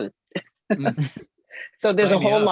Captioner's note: laughs